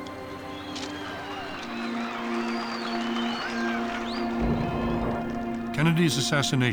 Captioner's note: crowd cheering and whistling